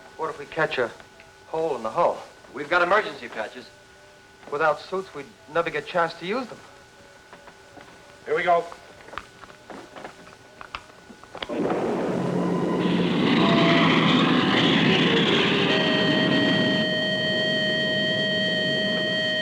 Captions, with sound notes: - What if we catch a hole in the hull? - We've got emergency patches. - Without suits, we'd never get a chance to use them. - Here we go. (rocket rumbling) (alarm blaring)